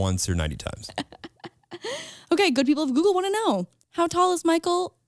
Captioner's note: laughs